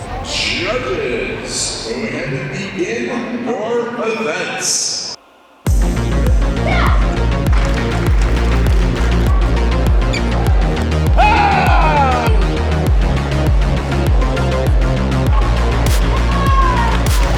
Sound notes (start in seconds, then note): 6.0 upbeat music; 9.8 cheering; 15.7 upbeat music